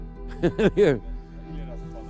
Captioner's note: laughs